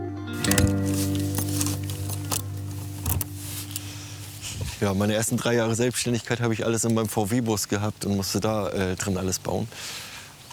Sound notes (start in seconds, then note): 0.3 keys jingle